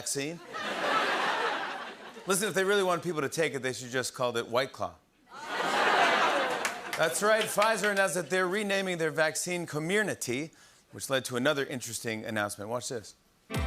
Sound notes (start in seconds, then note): 0.4 laughter; 5.3 laughter and applause